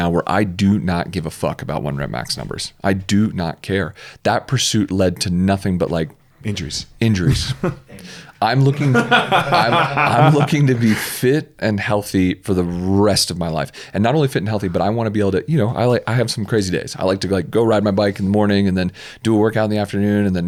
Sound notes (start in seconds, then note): 7.3 both laugh